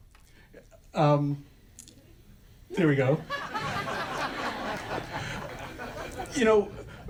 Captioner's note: audience laughter